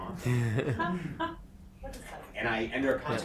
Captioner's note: panel chuckling